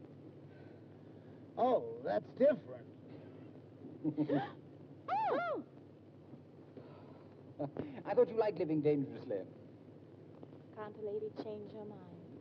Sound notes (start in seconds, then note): 4.9 June gasps